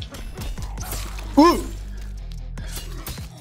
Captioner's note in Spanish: sonido de primate